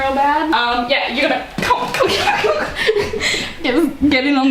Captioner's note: laughter